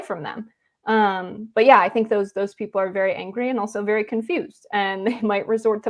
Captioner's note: laugh